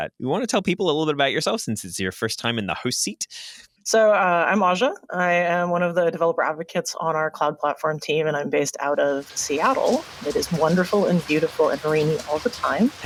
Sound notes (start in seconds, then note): 9.7 applause